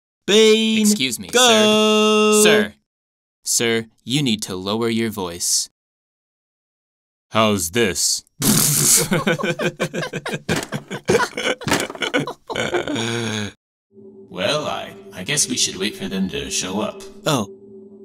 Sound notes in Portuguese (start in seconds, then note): 7.3 Aprofunda voz; 8.5 Ambos rindo